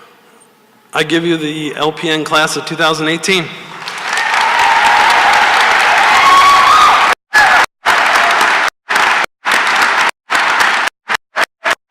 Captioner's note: cheering and applause